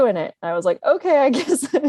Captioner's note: laughing